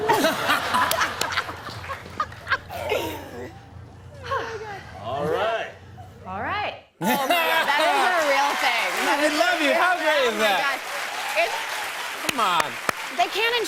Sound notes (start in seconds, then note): 0.0 laughter; 2.6 sighs; 10.1 cheers and applause